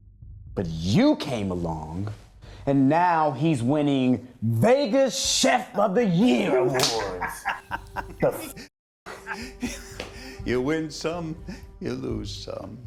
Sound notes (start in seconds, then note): 6.3 laughs; 6.5 chuckles